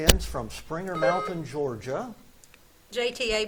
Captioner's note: buzzer beeps